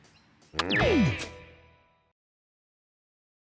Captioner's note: click